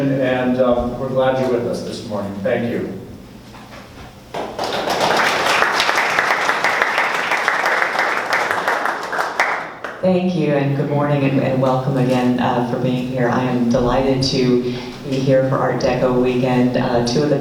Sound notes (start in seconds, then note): 4.3 applause